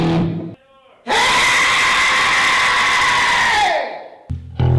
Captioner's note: screaming